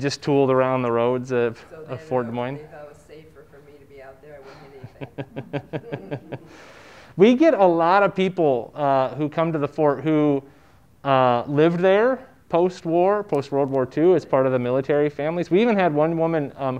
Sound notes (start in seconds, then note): 4.4 speaker, laughing